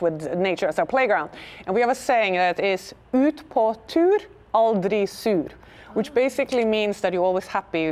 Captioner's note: speaking Norwegian